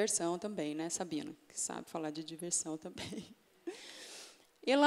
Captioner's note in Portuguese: risos